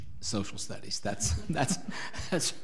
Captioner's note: laughs